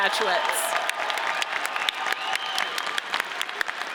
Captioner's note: audience cheers